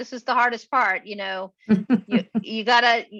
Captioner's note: chuckles